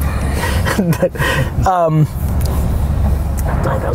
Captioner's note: laughing